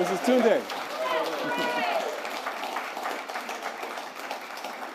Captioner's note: applause